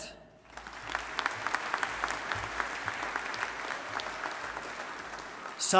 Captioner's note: audience applauding